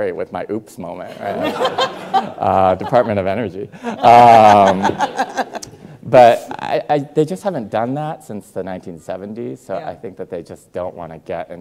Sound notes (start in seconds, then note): 1.2 Rachel and audience laughing; 4.0 Rachel laughing